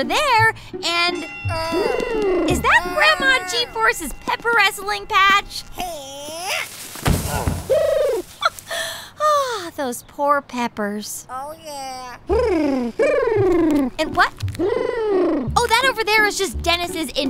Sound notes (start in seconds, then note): 1.0 soundbite of a wrestling match bell; 6.9 soundbite of bodyslam; 8.7 sigh